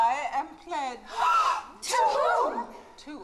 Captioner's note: BRIDESMAIDS, gasping